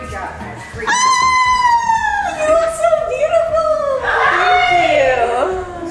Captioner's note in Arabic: صرير كريستالي